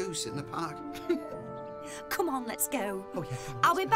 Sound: laughs

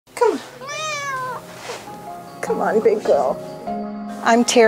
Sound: cat meow

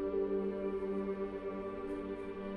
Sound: none

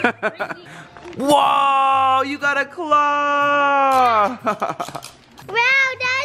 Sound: laughs

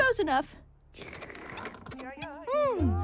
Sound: slurping

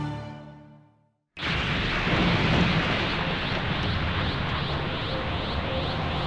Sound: rubble crashing, HOLY CRAP, how POWERFUL was that last energy display-??

